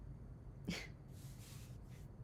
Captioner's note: small laugh